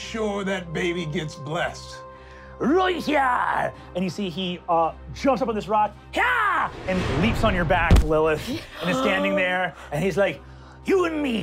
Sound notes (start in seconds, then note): 6.2 shouts